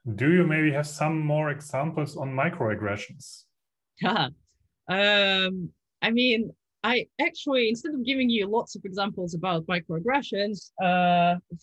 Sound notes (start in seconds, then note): 4.4 laughs